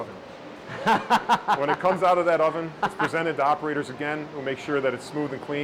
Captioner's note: laughs